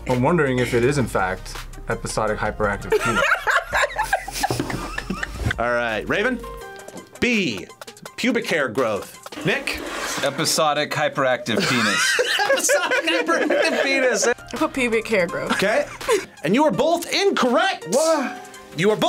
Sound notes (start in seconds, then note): 2.9 both laugh; 11.5 laughs; 15.5 both laugh